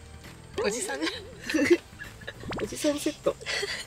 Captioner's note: Laughs